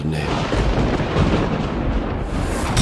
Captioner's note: thundering